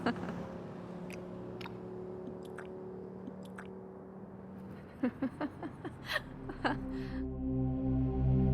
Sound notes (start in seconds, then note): 0.9 Alex laughing